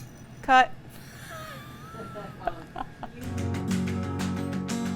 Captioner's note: laughing; soothing instrumental music